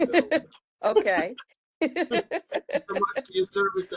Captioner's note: laughs